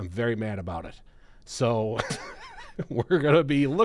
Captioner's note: laughs